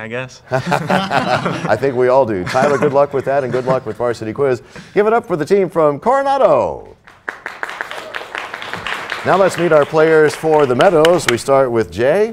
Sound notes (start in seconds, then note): 0.5 laughter; 8.6 applause